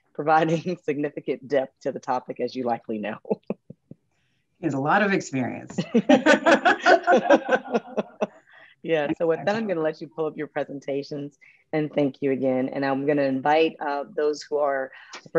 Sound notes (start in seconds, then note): 3.9 chuckles; 6.0 all chuckles